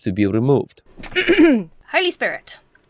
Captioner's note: clears throat